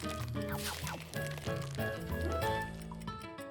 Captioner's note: eggs cracking; upbeat music